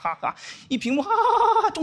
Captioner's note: laughing